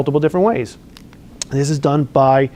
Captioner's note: lip smack